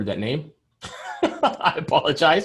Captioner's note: laughs